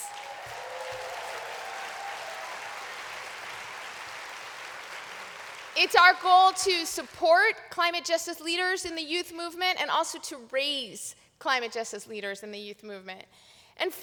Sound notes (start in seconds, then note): 0.0 applause